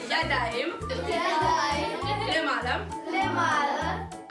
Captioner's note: children playing